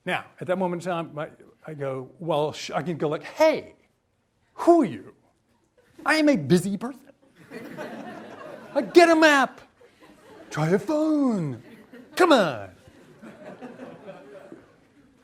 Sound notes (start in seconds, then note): 7.1 audience laughs